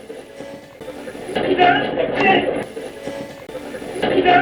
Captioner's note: radio scratching; radio voices